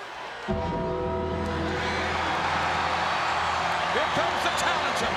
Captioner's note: crowd cheers; bell tolls